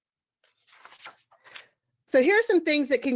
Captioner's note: paper rustles